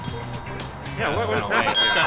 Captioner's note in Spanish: suena la campana